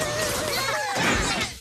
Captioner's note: low screaming